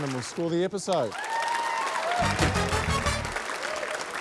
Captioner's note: cheering, applause